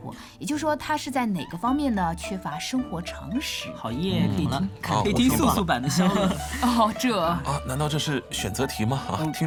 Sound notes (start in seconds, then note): 6.5 deep voice